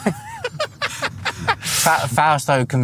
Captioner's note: laughter